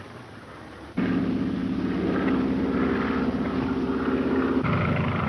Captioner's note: engine droning